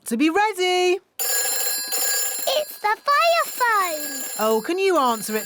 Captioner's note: phone rings